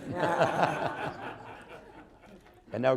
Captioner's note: laughter